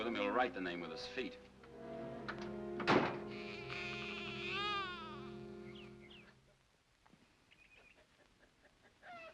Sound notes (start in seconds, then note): 2.7 door closes; 3.2 baby cries; 6.1 birds chirp; 7.6 chickens clucking